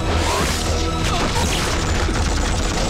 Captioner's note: Gunshots